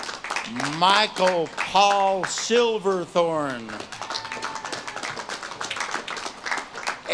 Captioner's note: audience claps and cheers